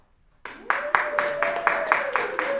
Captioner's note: clapping